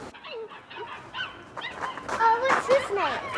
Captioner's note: dogs barking